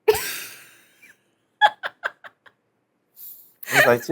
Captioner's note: laughs